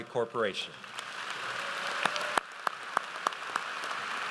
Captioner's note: audience applauds